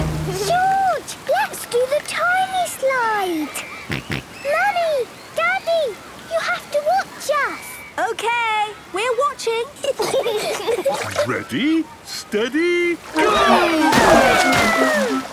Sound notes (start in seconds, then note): 3.9 George snorts; 9.9 giggling